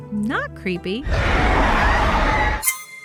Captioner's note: roar